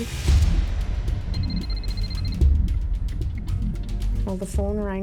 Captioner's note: cell phone ringing